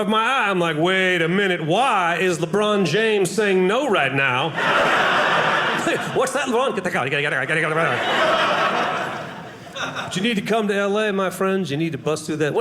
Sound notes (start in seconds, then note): 4.5 audience laughing